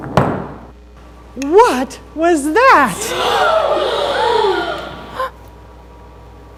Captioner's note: gasping